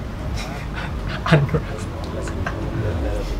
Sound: snickers

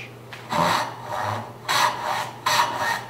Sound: rasping

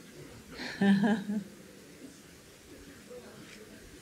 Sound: laughs

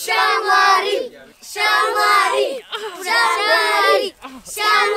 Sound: chanting

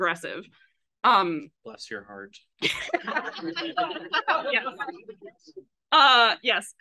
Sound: laughs

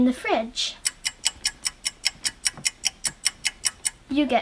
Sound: clock ticking

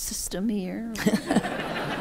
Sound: laughter

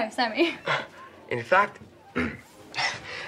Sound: clears throat

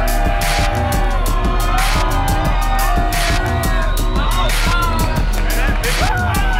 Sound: crowd cheering; upbeat music

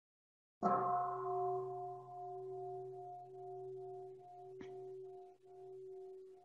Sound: bell

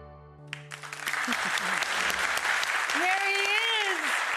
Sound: applause

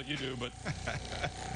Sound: laughter

